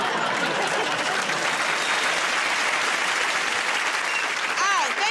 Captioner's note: applause